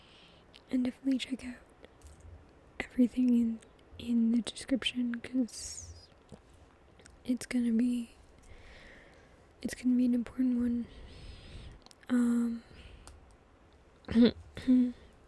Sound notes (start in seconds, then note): 14.1 clears throat